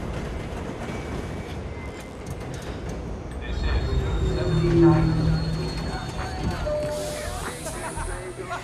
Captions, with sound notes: [sighs] [announcer over PA] This is 79th Street. [passengers chattering, laughing]